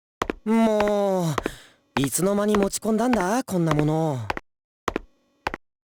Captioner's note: sigh